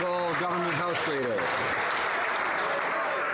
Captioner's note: some Applause